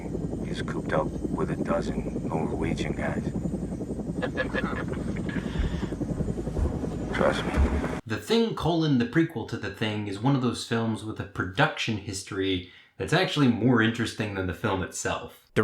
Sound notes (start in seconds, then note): 4.1 crew laughing; 4.2 helicopter rumbling